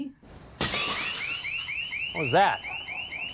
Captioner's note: glass shatters; alarm rings